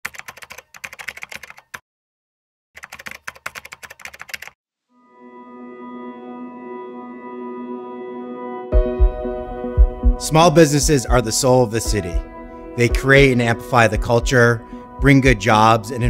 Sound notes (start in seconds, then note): 0.0 typing; 4.9 soft piano music